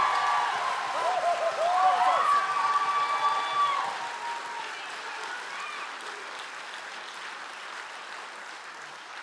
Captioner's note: audience cheering